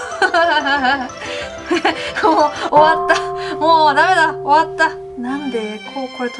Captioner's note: laughs